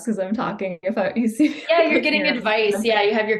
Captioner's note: laughs